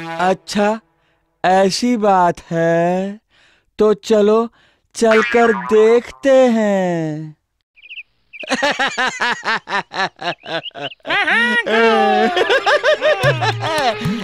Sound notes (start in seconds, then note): 8.4 laughs